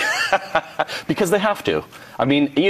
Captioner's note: laughs